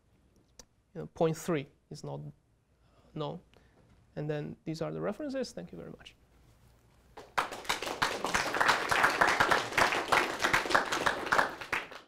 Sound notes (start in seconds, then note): 7.1 applause